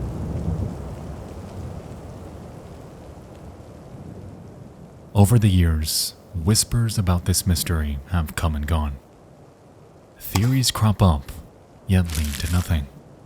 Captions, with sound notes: (rain pattering) Over the years, whispers about this mystery have come and gone. Theories crop up, yet lead to nothing.